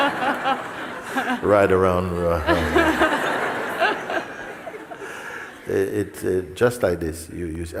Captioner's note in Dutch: gelach; gelach